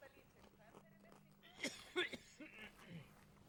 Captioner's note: coughs from cameraman behind